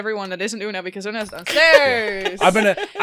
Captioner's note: laughter